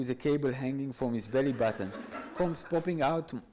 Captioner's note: audience laughs